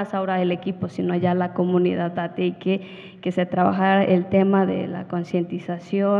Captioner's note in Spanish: habla en wixárika